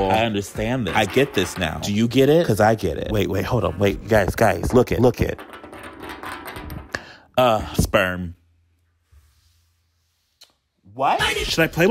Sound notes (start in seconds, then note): 5.6 bean rattling